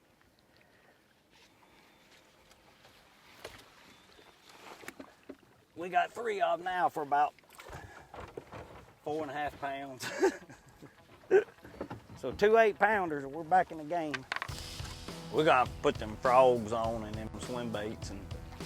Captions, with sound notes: We got three out now for about four and half pounds. (laughs) So two eight-pounders and we're back in the game. We got to put them frogs on and swim baits,